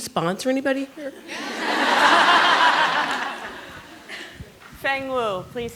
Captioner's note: laughter